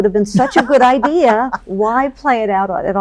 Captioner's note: laughs